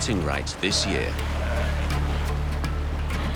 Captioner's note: sea lions grunting; dramatic music